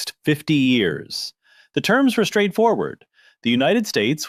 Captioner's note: thoughtful